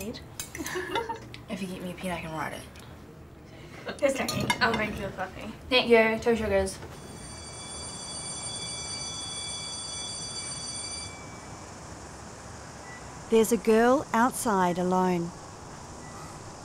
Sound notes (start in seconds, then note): 0.5 they laugh; 7.0 school bell rings